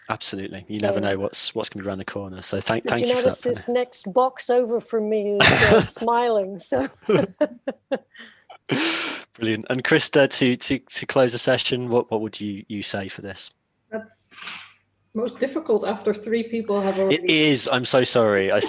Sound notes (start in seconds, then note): 6.8 laughs